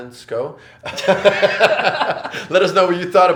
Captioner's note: both laugh